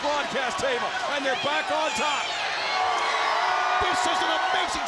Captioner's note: crowd chatter